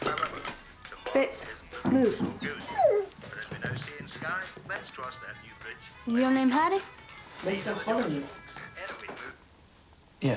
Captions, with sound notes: Fitz, move. (dog whining) - Your name Harry? - Mr. Holland.